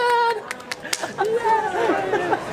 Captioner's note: clapping